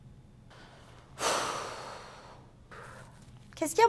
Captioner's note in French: Soupir